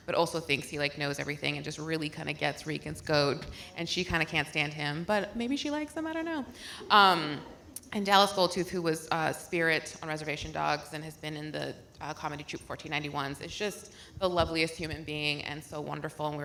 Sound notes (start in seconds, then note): none